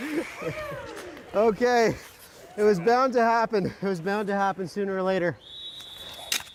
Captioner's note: laughter